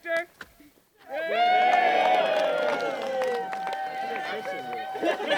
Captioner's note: cheering